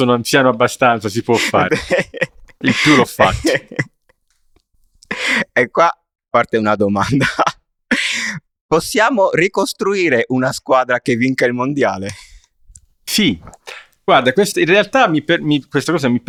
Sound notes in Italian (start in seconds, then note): 0.0 risate